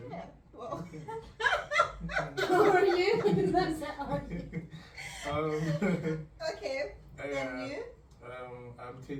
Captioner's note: bursts into a hearty laughs